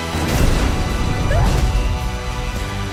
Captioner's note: yelps